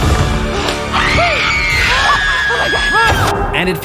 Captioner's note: screams